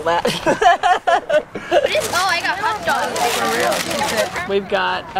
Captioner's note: laughing, kids talking